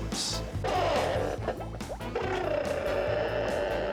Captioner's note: <i> crackling</i>